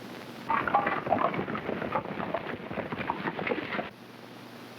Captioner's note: hooves clopping